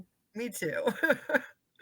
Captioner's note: laughing